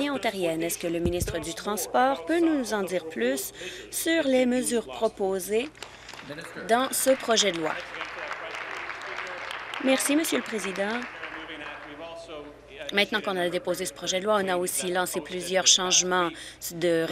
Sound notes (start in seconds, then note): 10.3 applause